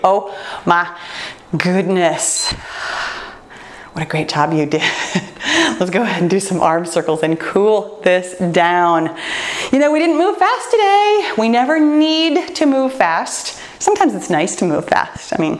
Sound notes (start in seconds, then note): 5.3 laughs